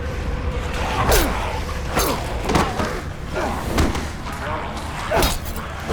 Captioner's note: grunting; grumbling